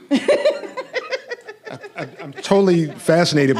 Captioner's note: laughing